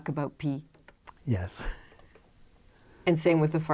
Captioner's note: laughter